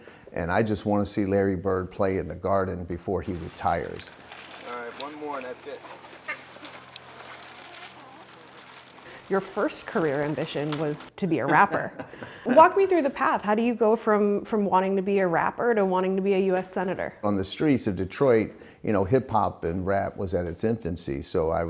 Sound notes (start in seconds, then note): 3.8 bag rustling; 5.8 chickens clucking; 11.5 laughs